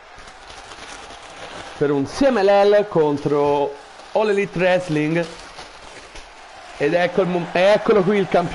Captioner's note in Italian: Applauso